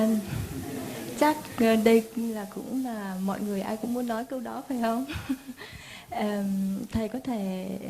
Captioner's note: audience laughs